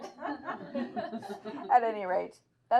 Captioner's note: laughing